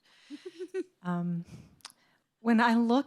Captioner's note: person chuckles